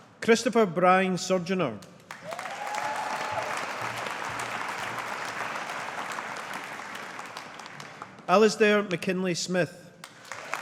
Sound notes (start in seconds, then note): 2.0 audience applauding